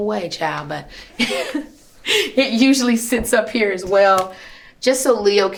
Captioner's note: laughs